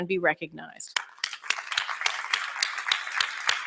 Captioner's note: applause